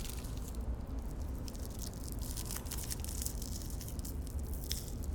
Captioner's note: wrapper crinkling